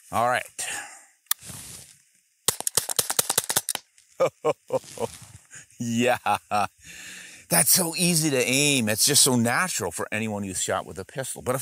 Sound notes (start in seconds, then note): 2.4 shots fire; 4.2 laughs